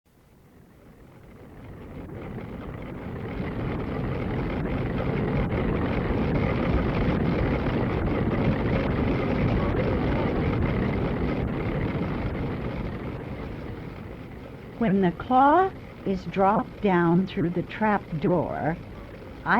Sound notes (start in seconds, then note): 0.2 machine Noise